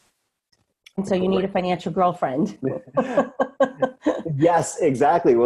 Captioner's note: laughs